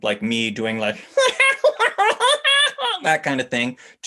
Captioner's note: goofy laugh